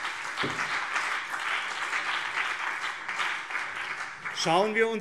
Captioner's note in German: Beifall BÜNDNIS 90/DIE GRÜNEN und CDU